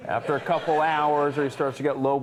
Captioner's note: audience laughing